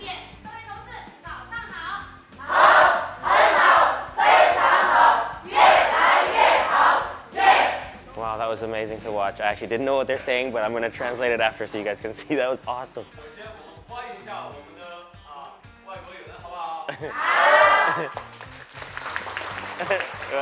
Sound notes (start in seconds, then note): 0.1 workers speak Mandarin; 13.5 workers speak Mandarin; 16.8 laughs; 17.8 members applauding